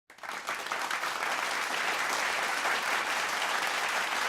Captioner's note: audience clapping